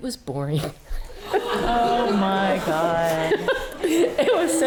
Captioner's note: audience laughing